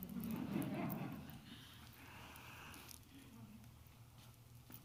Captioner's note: crowd laughing